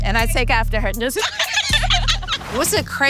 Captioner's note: laughter